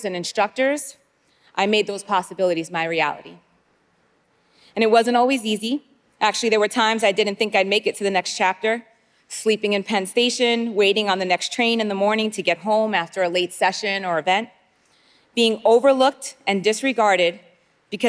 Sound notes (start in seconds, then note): none